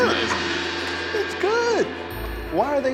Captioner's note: gong rings